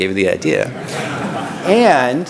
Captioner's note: laughter